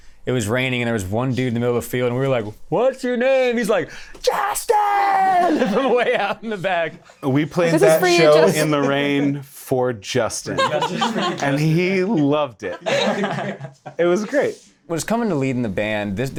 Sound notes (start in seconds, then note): 5.4 laughter; 10.5 laughter